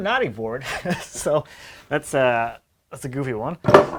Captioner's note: man laughs